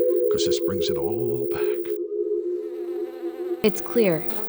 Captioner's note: none